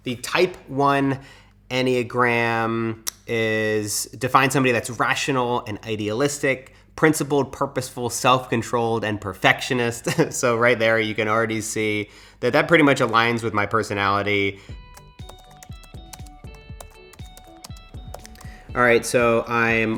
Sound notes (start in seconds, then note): 14.9 typing